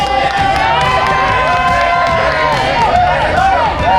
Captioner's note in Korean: 응원소리 ㄷㄷ